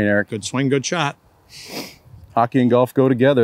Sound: sniffles

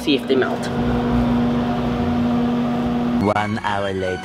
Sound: microwave buzzing

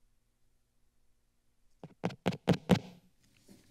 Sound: mic tapping

